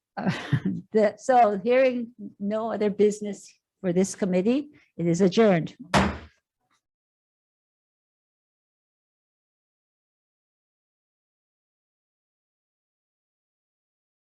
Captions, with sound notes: So hearing no other business for this committee, it is adjourned. (gavel bangs)